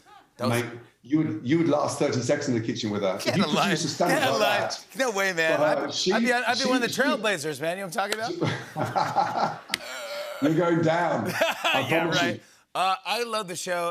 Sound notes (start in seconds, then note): 8.3 laughter